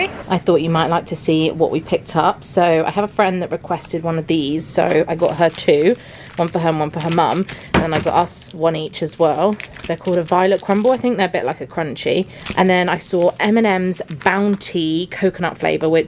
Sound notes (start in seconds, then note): none